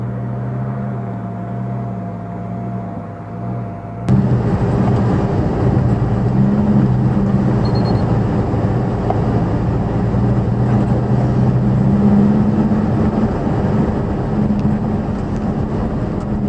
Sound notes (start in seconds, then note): 4.1 engine, air conditioner blower on "high" noise